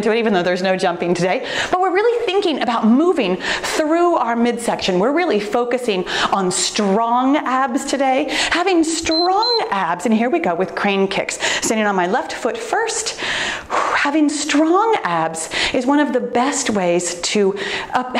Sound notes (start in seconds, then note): 9.0 timer beeps; 13.2 exhales softly